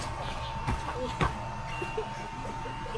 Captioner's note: stomp